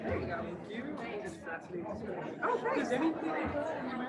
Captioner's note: group chatter